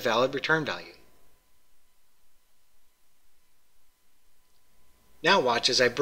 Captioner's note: pause